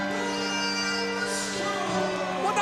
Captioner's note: upbeat classical music; crowd cheering